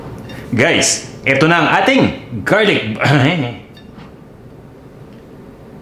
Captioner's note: chuckles